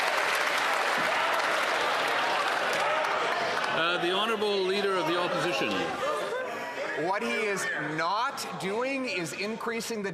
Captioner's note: some Applause